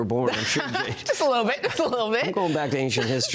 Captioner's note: laughs